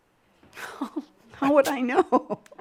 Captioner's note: chuckles